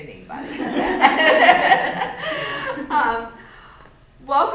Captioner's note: laughter